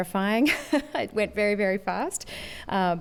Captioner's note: laughter